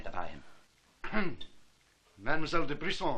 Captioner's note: clearing throat